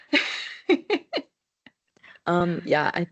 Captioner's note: laughs